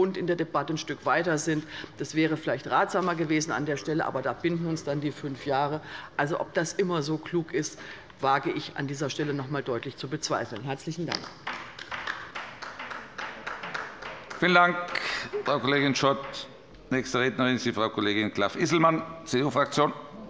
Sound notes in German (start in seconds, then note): 11.5 Beifall